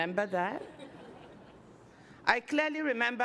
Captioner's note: laughter